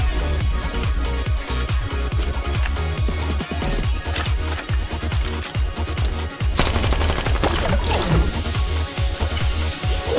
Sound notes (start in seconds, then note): none